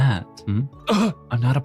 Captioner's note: gasps